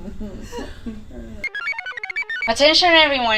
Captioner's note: computer chirps